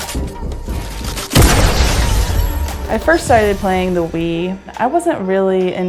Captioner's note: gunfire